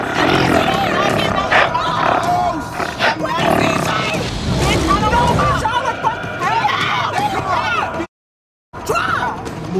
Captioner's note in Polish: Niezrozumiałe krzyki